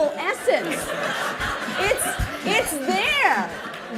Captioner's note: laughter